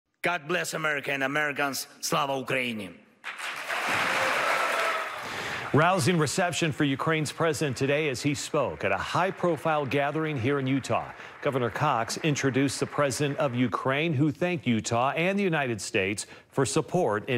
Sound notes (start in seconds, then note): 3.2 applause; 7.4 applause